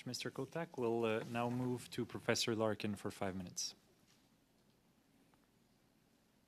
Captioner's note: speaking French